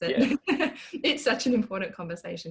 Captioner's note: laughing